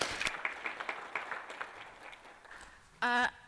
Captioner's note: applause